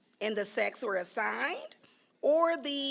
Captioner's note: none